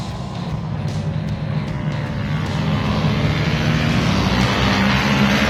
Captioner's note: engines revving